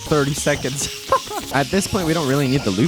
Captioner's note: laughs